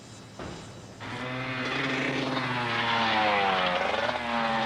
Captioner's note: motorbike rumbling